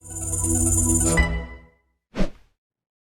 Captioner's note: logo chiming